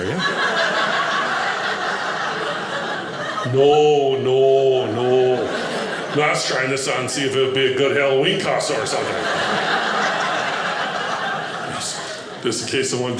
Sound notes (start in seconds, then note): 0.0 audience laughing